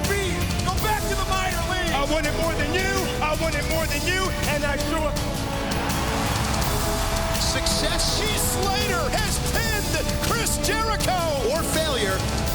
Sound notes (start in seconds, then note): 7.4 crowd cheering